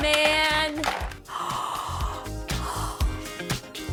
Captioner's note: gasps; upbeat music